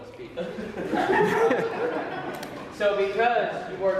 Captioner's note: crowd laughs